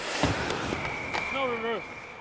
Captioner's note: whistle blowing